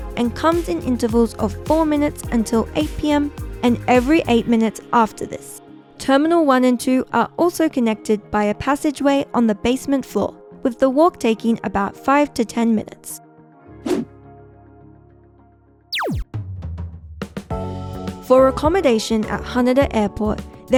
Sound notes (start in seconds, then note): 15.9 laser blasting; 15.9 upbeat music